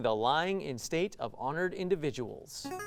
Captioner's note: ring-in sound